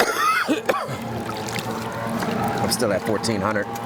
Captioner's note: coughing